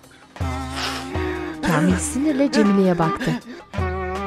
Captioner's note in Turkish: Ağlama sesi